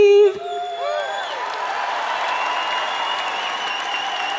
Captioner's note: crowd cheering